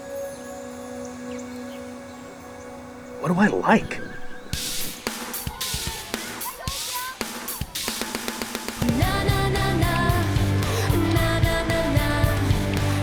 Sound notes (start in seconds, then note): 4.5 vibrant music; 5.5 campers faintly shouting